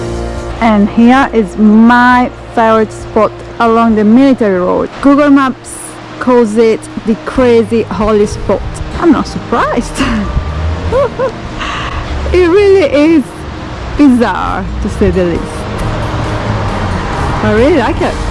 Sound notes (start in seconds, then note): 10.8 laughing